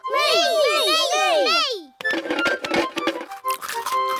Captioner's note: none